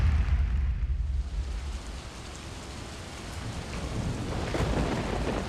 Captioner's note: rain storm sounds